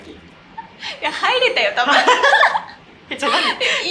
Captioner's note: laughs